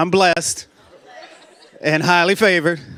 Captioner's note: laughter